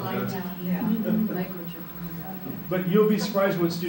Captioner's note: chuckling